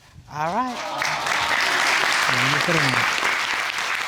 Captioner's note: audience cheering